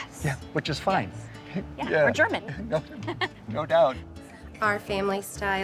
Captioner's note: laughs